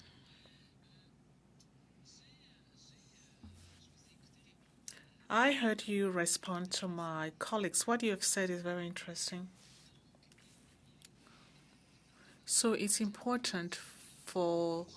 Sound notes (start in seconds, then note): 5.6 speaking French